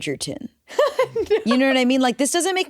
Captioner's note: laughs